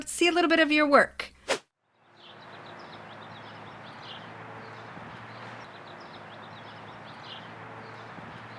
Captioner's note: atmospheric sounds of wind & birds